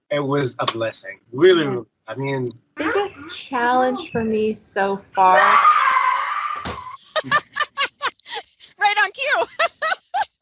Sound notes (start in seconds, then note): 5.3 screaming; 9.2 laughter